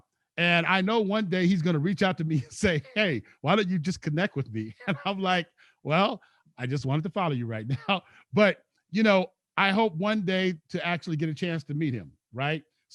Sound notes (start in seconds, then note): 4.6 laughs